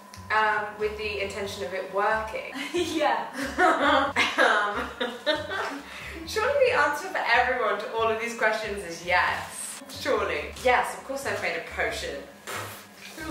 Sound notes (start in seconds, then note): 3.3 laughing